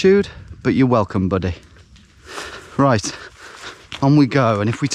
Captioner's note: none